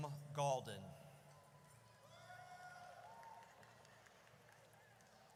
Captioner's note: audience cheers